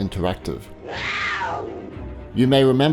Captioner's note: cheetah growls